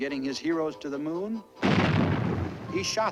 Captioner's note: explosion